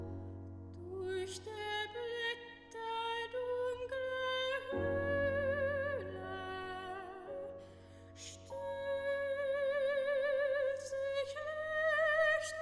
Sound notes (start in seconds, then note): none